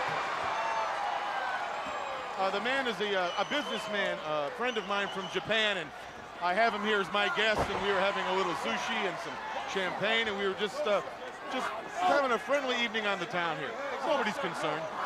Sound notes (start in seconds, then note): 1.5 crowd cheering